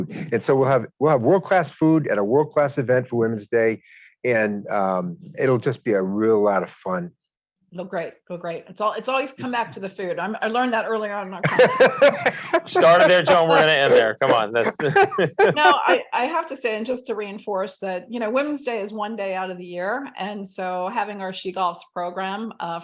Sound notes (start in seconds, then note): 11.4 laughs